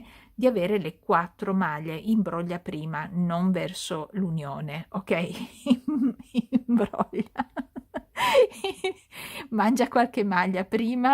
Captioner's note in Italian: risate